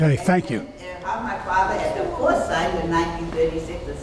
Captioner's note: speaking off mic and muffled